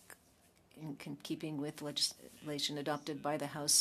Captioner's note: speaking French